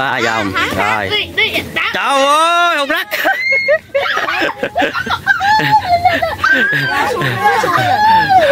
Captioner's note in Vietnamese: Tiếng cười